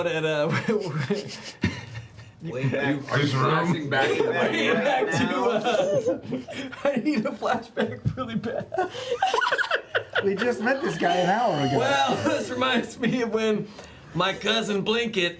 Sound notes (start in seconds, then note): 3.8 laughing